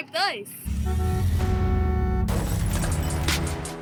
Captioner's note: honking